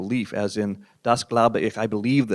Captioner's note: speaking german